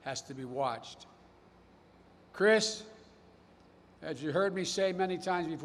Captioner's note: none